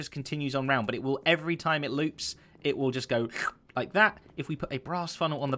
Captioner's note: slurp